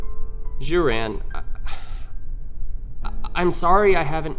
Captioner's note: sigh